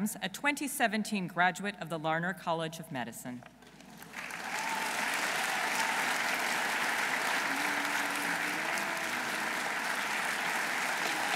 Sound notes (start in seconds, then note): 3.9 audience applauding